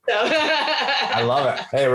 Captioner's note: laughs